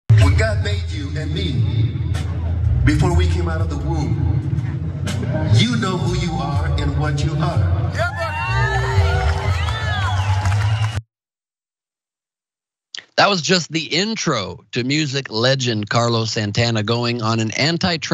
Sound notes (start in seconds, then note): 8.8 applause